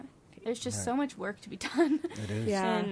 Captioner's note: laughs